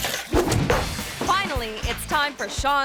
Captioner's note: toy breaking; sledgehammer slamming